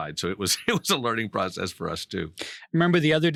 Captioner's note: laughing